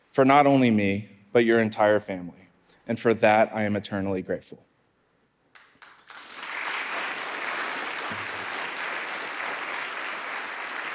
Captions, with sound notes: for not only me, but your entire family, and for that, I am eternally grateful. (audience applauding)